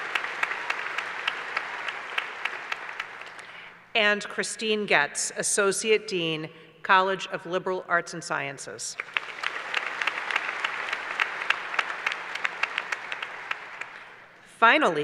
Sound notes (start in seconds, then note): 0.0 applause; 8.9 applause